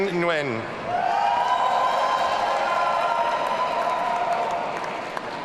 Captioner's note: audience cheering